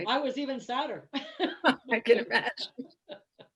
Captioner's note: laughter